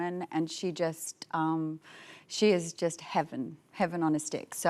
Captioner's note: none